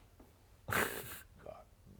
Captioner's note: snickering